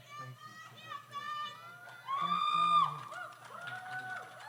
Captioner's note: audience cheers